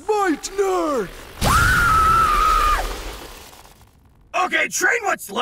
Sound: magic humming; magic booms; Wizard Boy shrieks

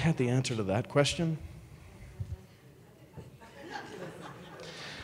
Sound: audience laughing

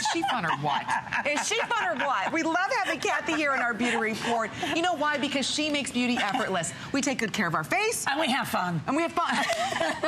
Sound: laughter

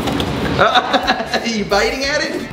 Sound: laughs

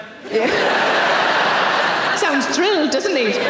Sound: audience laughing

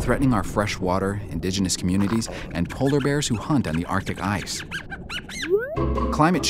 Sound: fish squeaks

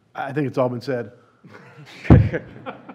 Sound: laughter

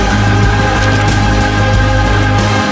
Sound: guns rattle

